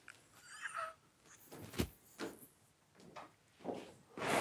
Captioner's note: group quietly laughing